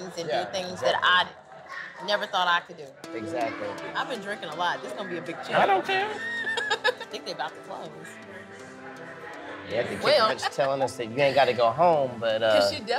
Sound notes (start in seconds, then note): 5.9 laughs